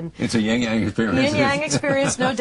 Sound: laughing

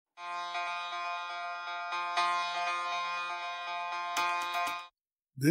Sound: alarm Sound

